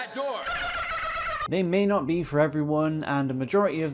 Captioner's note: dolphin noise